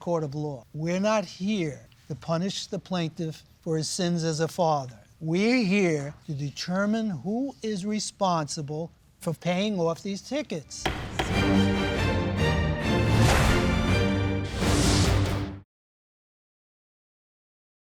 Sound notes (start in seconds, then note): 10.8 gavel bangs; 10.8 dramatic music